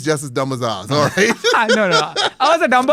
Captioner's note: laughs